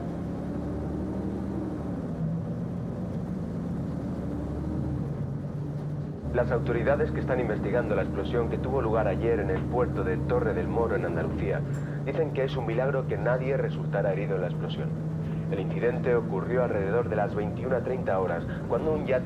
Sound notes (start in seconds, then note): 6.5 radio reporter speaks Spanish